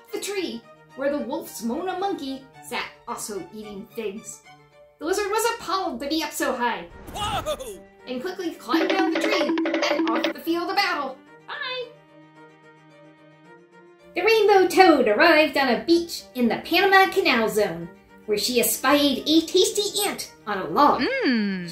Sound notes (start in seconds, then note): 7.0 whoooaaa!